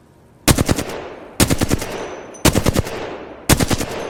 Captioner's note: sound of shooting